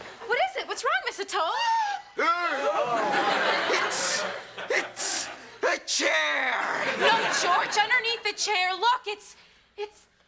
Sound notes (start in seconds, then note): 1.9 teacher Gasps; 2.7 all gasp